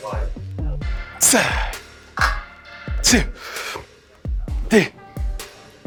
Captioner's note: Jay breathing deeply